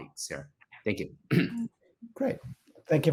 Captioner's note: clears throat